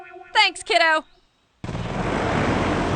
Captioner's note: engine roars